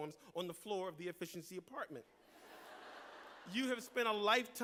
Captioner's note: laughter